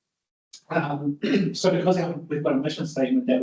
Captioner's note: attendee clearing throat